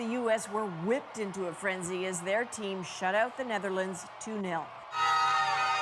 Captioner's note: cheers and Applause